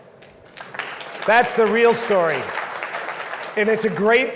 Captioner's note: audience claps